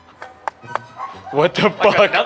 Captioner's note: teeth clacking